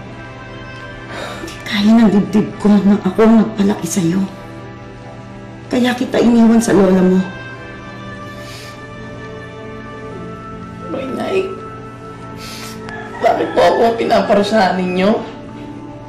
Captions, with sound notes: [sighs] I didn't have the heart to raise you, that's why I left you at your Grandma's. Mom, why are you punishing me?